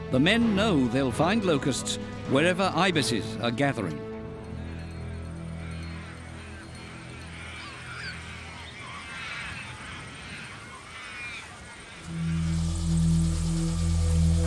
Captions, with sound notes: The men know they'll find locusts wherever ibises are gathering. [ibises squawking] -[locusts buzzing] -[eerie music]